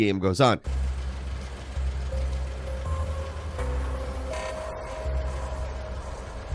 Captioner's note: engine purring; suspenseful music